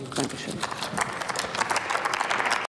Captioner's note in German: Applaus